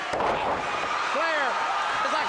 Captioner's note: crowd cheering